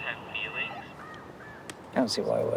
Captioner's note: phone bleeping